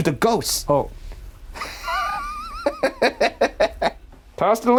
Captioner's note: laughing